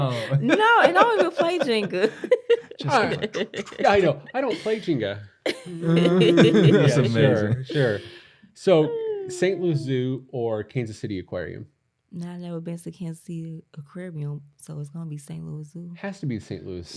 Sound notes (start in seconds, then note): 2.8 ninja sound effects